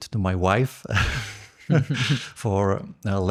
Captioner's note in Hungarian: nevetés